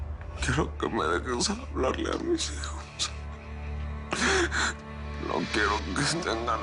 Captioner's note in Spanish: Sollozos